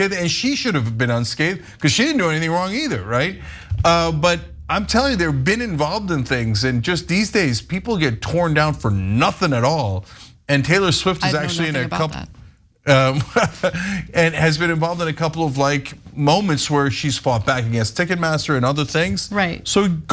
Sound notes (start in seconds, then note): 12.9 laugh